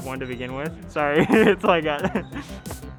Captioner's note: laughs